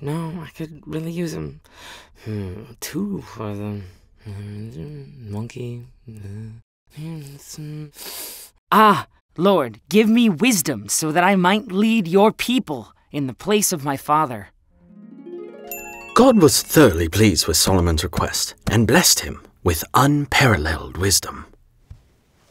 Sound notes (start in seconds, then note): 14.8 harp playing; 15.6 bell dinging